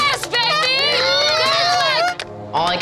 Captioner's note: challengers cheering